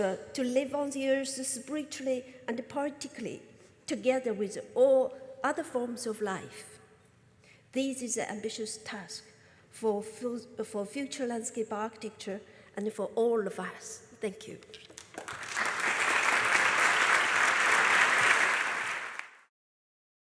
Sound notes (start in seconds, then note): 14.9 applause